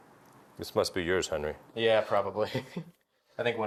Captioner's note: chuckling